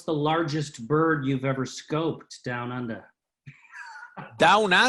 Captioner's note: laughs